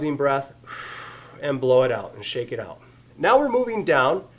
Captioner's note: exhales audibly